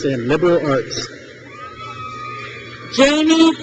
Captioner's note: crowd cheers